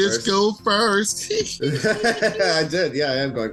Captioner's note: both laugh